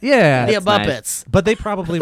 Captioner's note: laughs